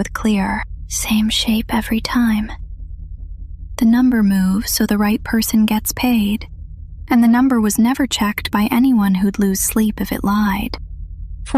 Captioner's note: whispers